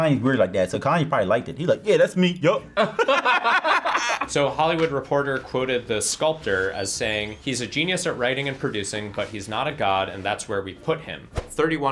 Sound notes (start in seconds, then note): 2.7 both laugh